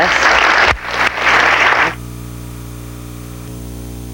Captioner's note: audience applauding